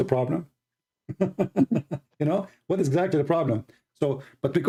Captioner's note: Ketawa